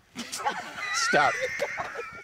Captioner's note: laughing